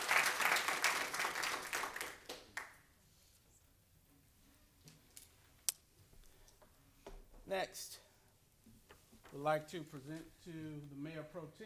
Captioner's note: applause